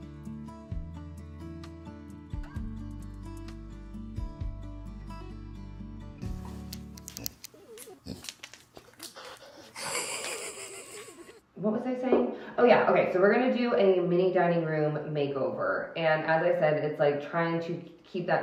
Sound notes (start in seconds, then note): 7.5 Leo oinking; 9.6 laughing